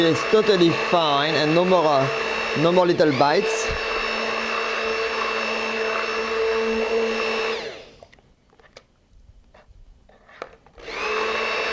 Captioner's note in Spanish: sonido licuando